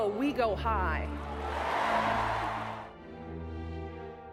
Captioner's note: crowd cheers